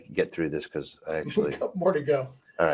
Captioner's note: laughs